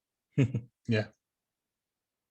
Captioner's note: chuckles